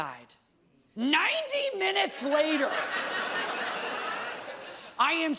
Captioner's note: audience laughs